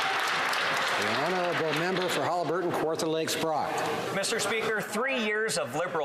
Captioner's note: some Applause